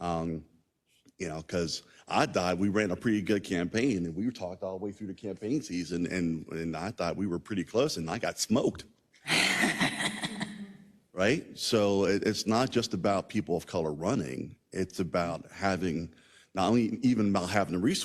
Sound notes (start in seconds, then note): 9.3 laugh